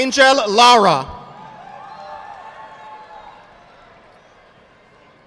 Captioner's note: audience applauding